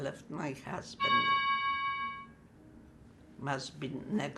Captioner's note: doorbell